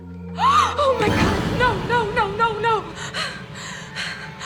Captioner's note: hard breathing; gasps